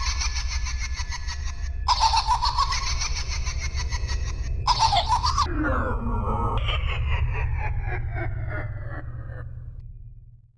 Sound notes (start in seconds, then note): 0.0 evil Laughter; 0.0 horror Music; 6.1 evil laughter fading; 8.9 horror music